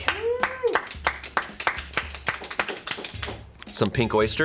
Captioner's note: crew members clapping